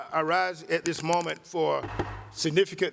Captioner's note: pounding of gavel